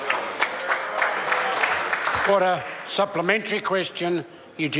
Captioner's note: members applaud